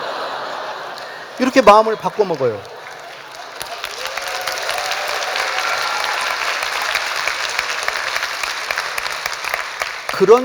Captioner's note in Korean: 웃음; 박수와 환호